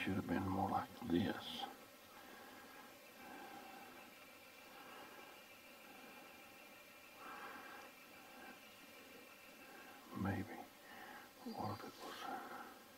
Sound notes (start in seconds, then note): 2.0 distant birds chirping